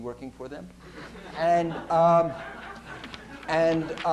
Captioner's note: laughter